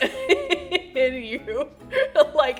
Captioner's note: laughs